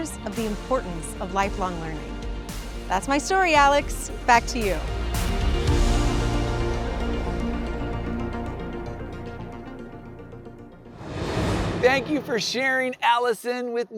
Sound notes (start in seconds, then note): 5.4 gentle music; 10.9 air whooshing